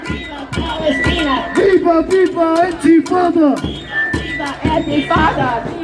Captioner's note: chant